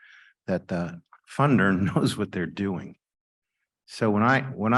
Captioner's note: chuckling